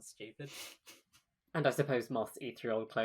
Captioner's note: laughs